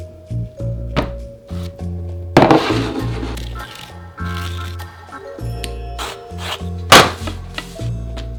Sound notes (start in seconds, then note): 4.0 scraping zucchini